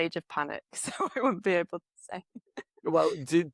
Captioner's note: laughs